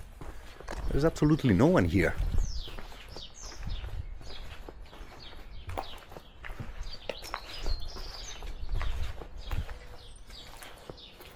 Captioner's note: birds chirping